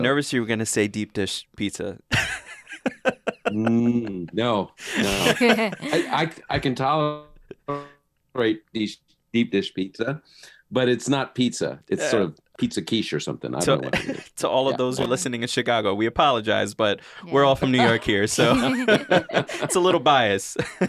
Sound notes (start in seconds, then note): 2.2 laughs